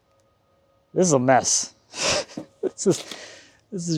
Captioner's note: chuckles